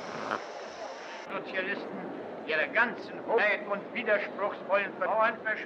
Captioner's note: speaking in foreign language